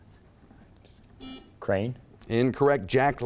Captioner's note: buzzer beeping